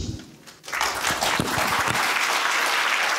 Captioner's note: applause